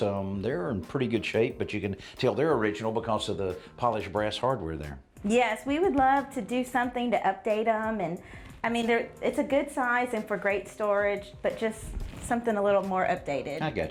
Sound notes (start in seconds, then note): none